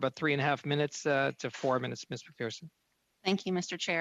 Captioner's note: speaking French